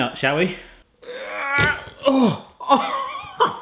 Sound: grunting; laughing

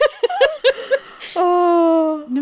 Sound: laughing

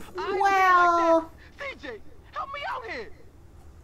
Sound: game audio

